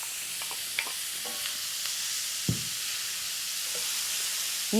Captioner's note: loud sizzling